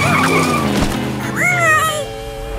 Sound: squeaking

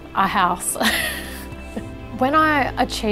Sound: chuckles

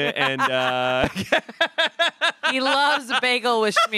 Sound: everyone laughs

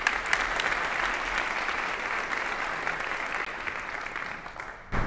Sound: audience applauding

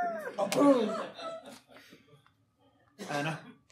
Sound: audience laughing

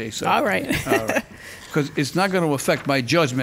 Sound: laughing

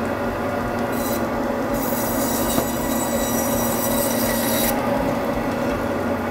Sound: saw sound

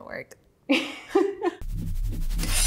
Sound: laughing; soft music

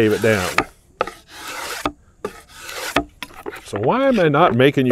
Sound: draw knife scrapes

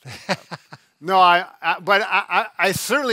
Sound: laughing

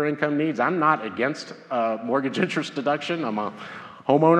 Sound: laughs

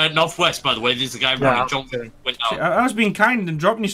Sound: overlapping chatter

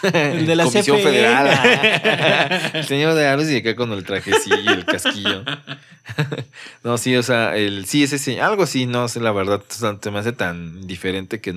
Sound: laughs

